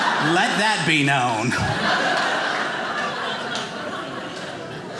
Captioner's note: audience laughing